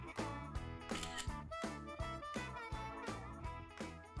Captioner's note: camera clicks